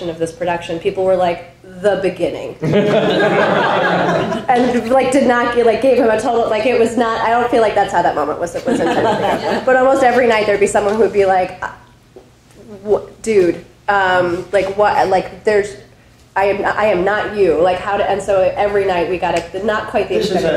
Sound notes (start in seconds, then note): 2.6 audience laughing